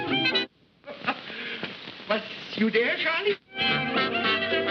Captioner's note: laughs; lively music